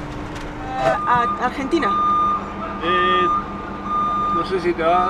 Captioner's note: in Spanish